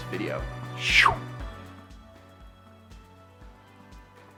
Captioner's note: whooshes